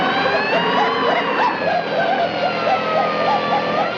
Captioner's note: siren blaring; Daffy whooping